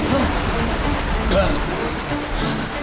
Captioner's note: gasping